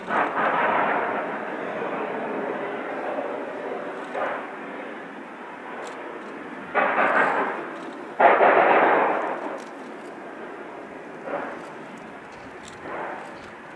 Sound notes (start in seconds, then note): 0.0 constant locomotive slipping; 0.5 plowing sounds